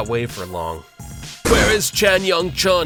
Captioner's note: marching; crash!!!